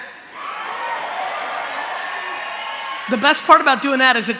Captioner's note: cheering